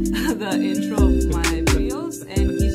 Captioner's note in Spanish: Risas